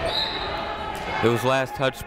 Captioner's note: people shouting in the crowd; whistle tweeting